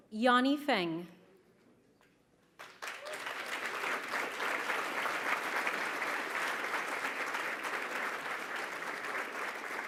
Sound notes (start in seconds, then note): 2.5 applause